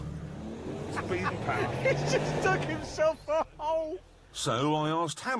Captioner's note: laughs